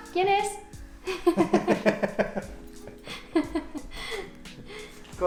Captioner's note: laughter